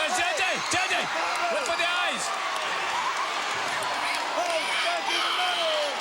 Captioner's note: crowd cheering